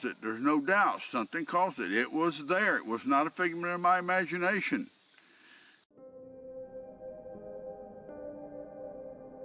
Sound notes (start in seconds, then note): 5.2 inhales; 6.0 eerie music